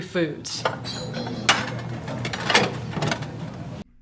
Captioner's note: phone Hangs Up